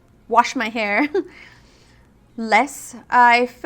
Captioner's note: laughs